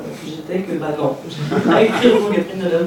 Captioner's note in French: rires